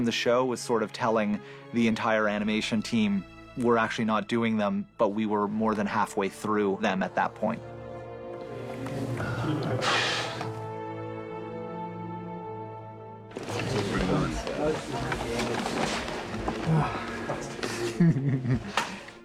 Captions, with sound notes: ...was sort of telling the entire animation team, "We're actually not doing them... ...but we were more than halfway through them at that point." [SIGHS] [CHUCKLES]